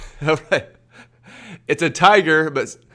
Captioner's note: laughs